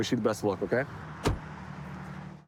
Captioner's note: door bangs